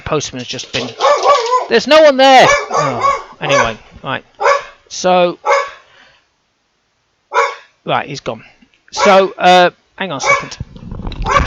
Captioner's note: dog barking